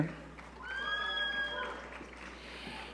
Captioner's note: audience cheering